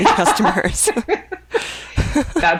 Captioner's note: women laughing